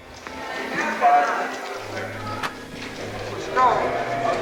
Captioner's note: film crew chattering